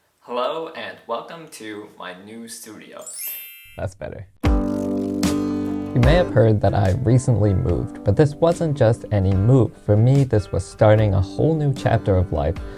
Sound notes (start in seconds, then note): 3.1 ring